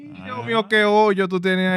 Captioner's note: speaking In Foreign Language